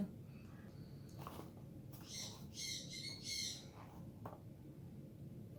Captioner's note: bird squawking